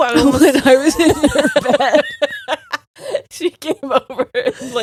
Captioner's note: both laughing